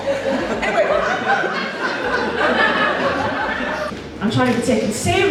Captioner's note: audience Laughs